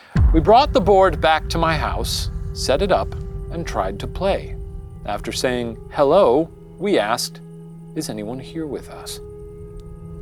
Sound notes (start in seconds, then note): none